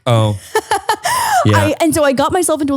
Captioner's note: laughing